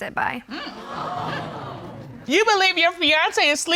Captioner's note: audience gasps